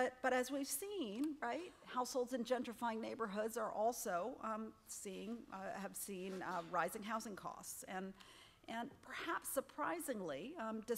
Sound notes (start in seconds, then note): none